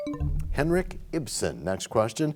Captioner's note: bell chimes, time expires